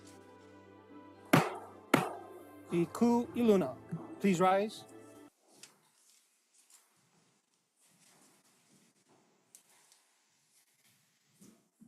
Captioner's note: gavel bangs twice